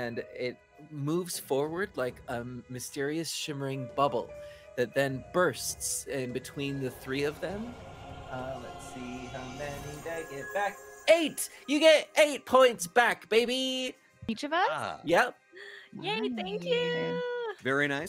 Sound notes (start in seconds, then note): 8.3 explosion chiming